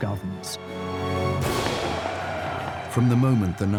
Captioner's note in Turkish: kalabalık tezahürat